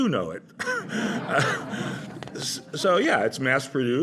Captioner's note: laughter